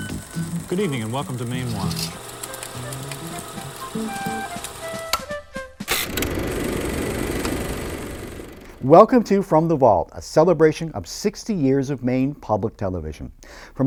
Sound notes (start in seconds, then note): 2.3 upbeat music; 3.7 projector clicking